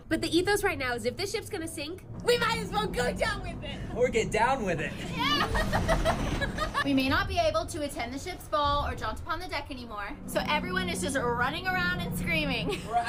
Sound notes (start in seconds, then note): 3.7 ship groaning; 4.9 hysterical laughter